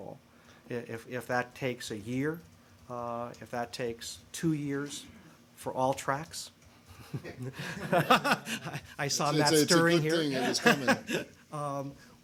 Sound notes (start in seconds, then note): 7.0 laughter